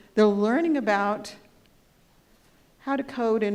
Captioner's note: none